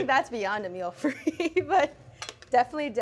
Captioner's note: laughs